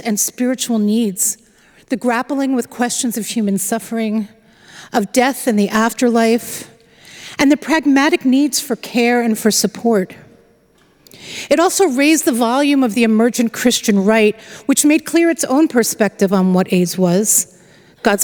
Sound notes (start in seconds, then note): none